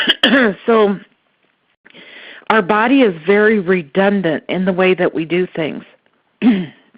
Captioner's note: coughs